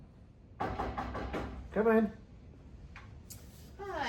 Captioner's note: knocks